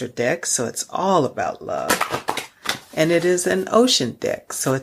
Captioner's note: cards clattering